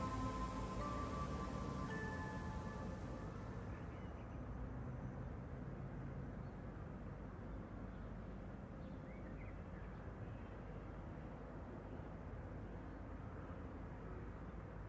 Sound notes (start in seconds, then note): 4.7 birds chirping